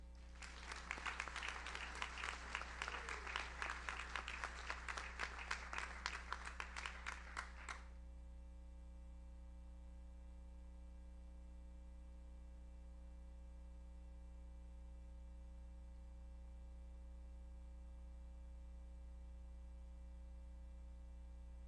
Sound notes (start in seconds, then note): 0.2 audience applauds; 1.6 audience member cheers